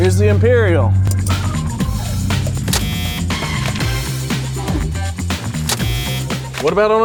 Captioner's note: upbeat jazzy music; buzzer sounding